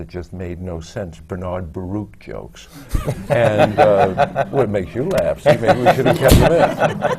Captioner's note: laughter, especially